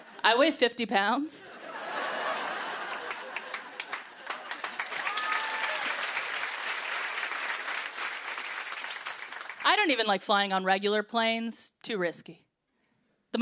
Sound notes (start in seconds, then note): 1.5 laughter; 2.7 cheers and applause